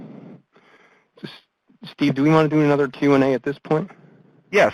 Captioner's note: voiceover